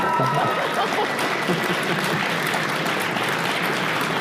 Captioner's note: audience applause